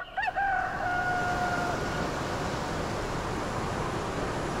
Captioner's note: rooster crowing